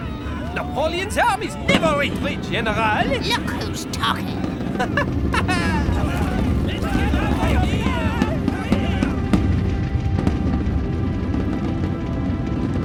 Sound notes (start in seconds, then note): 5.1 drum rumbling; 5.1 soldiers shouting; 9.5 pleasant music